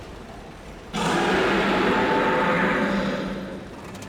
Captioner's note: roar